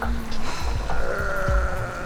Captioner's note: sigh